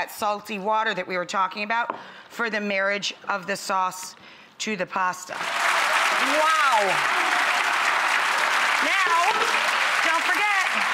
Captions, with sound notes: salty water that we were talking about for the marriage of the sauce to the pasta. Wow! (clapping) Now, don't forget.